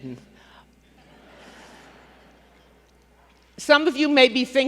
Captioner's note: laughter